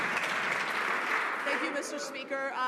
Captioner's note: some Applause